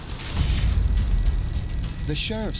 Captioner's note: phone rings